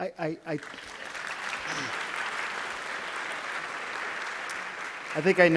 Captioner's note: applause